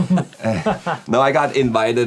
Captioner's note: laughing